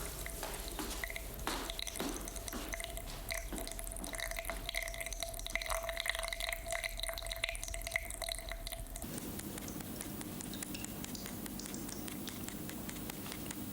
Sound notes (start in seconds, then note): 0.1 water dripping; 9.5 blood dripping